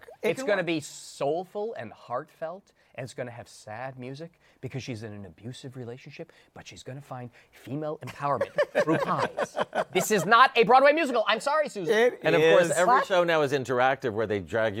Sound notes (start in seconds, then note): 8.0 laughter